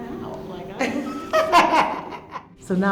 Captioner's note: chuckling